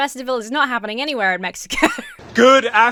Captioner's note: laughs